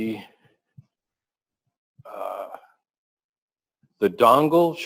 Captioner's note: pause